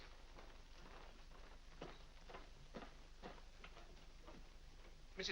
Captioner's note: soft footsteps up stairs